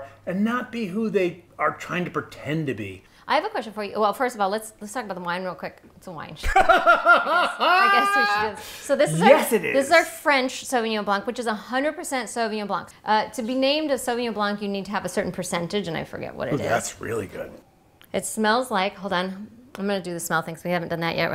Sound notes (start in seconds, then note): 6.5 laughing